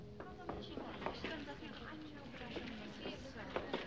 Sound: chattering

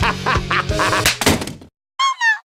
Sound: slap

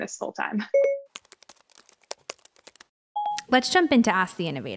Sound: computer beeping, keyboard clicking

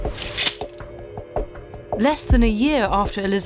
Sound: sword unsheathes; sword clinks

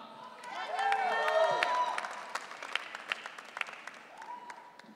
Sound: audience cheering

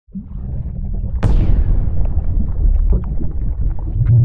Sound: water bubbling

